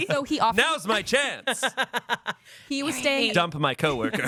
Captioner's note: laughs